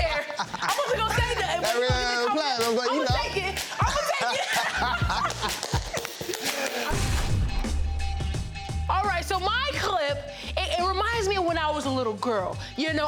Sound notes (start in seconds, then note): 0.0 laughs; 4.6 both laugh and clap